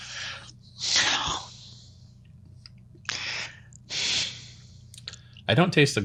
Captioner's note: heavy breathing intensifies